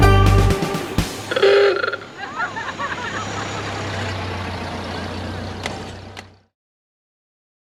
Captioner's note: ladies laugh